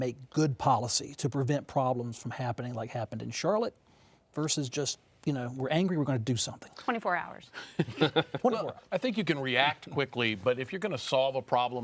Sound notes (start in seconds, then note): 7.6 chuckling